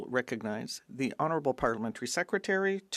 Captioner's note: speaking French